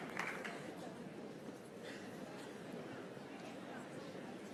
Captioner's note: applause